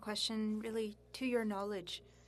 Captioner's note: speaking French